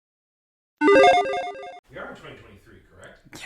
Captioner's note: logo chiming